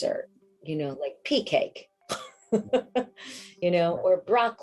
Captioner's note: laughing